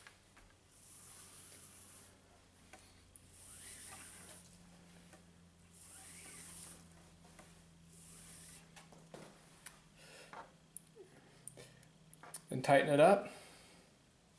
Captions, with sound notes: (cord hisses) And tighten it up.